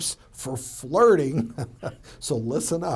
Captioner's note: laughs